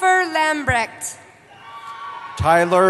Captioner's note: cheering